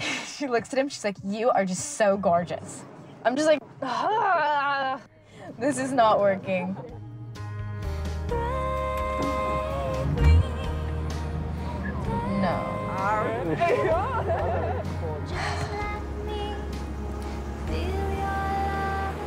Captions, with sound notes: She looks at him and she's like you are just so gorgeous. I'm just like, ah, this is not working. (mellow music) (car engine revving) (girls laughing)